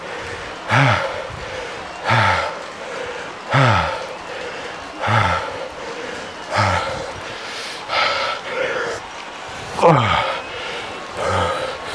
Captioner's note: breathing